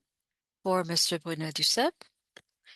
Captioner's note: speaking French